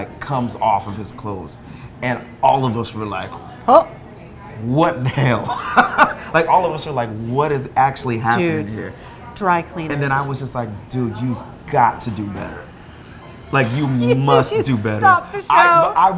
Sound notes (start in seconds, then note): 5.5 laughing; 14.4 laughing